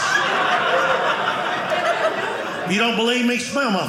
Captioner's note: audience laughing